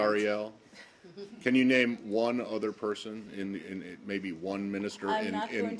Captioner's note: laughter